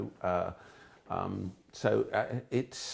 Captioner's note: none